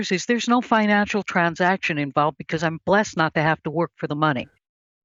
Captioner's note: none